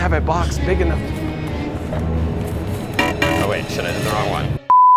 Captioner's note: scanner beeps